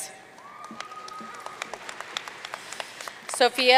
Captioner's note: audience cheering and applauding